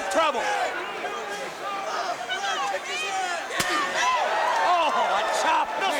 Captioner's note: crowd cheering